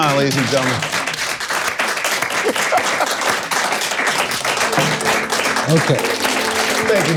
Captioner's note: audience clapping; laughing